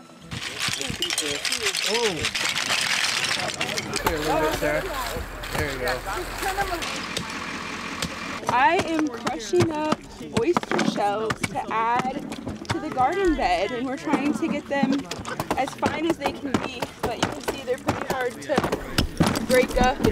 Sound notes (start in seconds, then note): 0.3 shells clanging; 3.1 people chattering; 7.1 engine purring